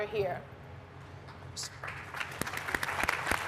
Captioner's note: applause